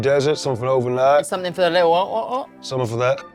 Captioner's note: imitates glugging